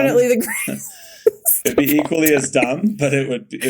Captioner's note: Mikaela laughing